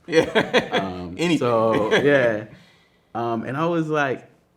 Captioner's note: man laughing